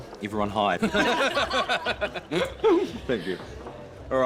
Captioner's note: all laugh